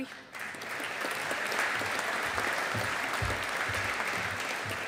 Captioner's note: audience applauding